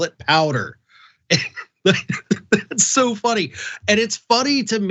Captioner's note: laugh